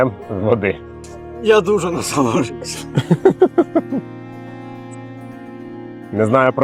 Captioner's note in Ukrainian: сміх